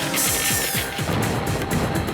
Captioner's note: siren blaring; explosion